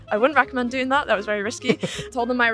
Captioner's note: laughs